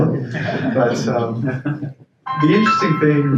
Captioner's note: audience chuckles